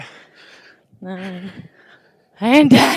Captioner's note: heavy breathing